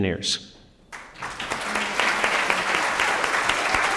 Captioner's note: applause